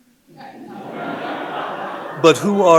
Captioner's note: audience laughing